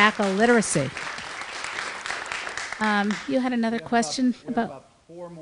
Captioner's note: applause